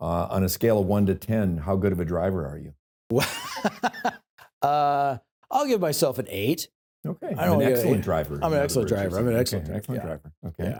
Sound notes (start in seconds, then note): 3.1 laughs